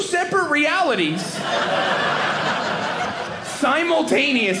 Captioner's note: audience laughing